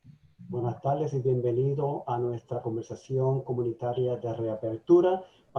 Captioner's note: speaking in foreign language